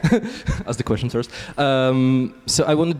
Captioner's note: laughs